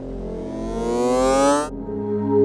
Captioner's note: winding up noise; calm music